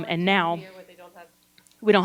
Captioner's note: gentle speaking